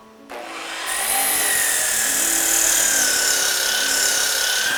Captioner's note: saw buzzing